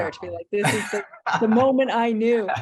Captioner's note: laughs